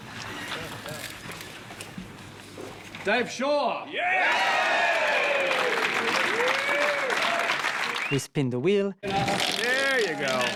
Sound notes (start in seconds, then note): 4.0 crowd cheering